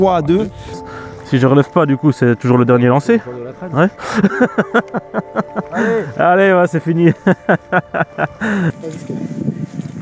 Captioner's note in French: rires